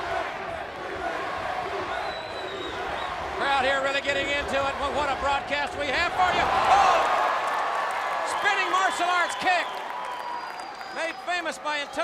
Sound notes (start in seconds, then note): 0.1 crowd cheering; 8.1 crowd cheering